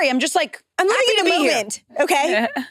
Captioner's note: participants chattering